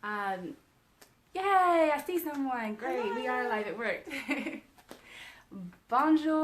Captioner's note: laughing